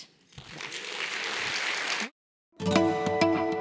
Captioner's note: applause